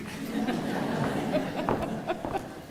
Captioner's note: laughter